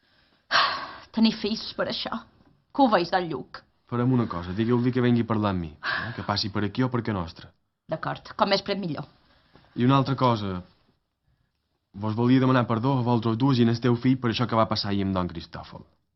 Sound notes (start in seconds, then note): 0.9 sighs; 5.9 sighs in assent